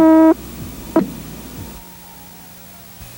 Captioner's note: beep